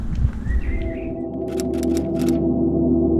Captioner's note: dream sound